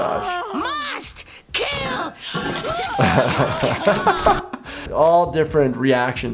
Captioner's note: water spraying